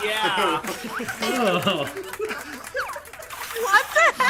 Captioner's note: group laughs